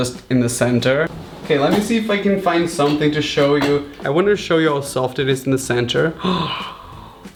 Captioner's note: gasps